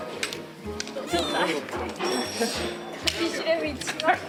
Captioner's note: choked up